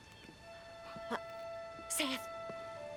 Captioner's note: whispering